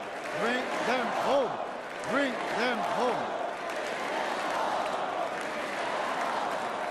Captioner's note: chanting "bring them home"